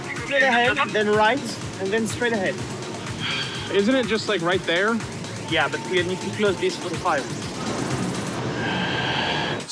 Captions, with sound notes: straight ahead, then right, and then straight ahead. (sighs) Isn't it just like right there? Yeah, but we need to close this for the fireworks. (sighs lengthily)